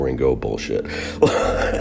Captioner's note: laughter